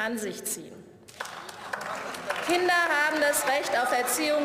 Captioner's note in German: Beifall